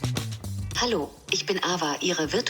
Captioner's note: foreign Language